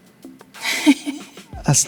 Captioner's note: laughing